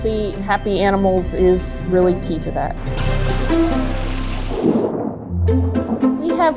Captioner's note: water splashes